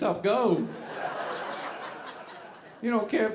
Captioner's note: audience laughing